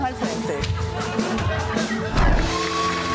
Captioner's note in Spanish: Aplausos